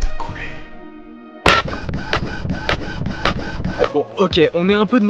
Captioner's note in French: bruits d'imprimante